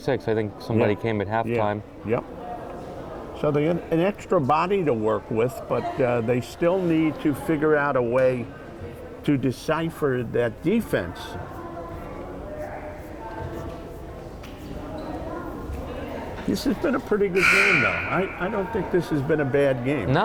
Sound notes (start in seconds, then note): 11.9 crowd chattering